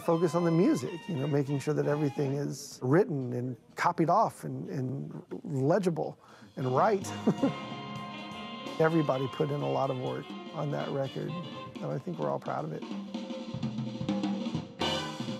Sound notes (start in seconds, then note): 6.8 chuckles